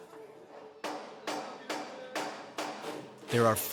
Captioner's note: hammer banging